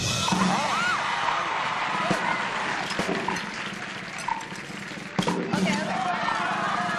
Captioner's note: applause